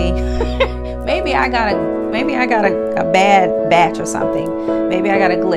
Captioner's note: laughs